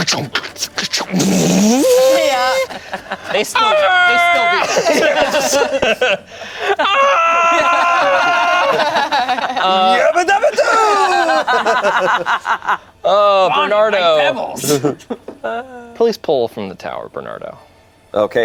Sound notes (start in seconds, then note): 0.0 rambling; 3.2 yells; 4.2 group laughs; 7.1 yells; 12.0 group laughs